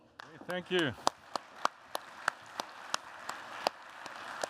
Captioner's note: applause